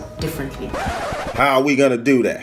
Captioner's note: record scratching